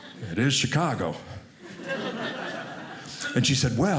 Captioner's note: audience laughing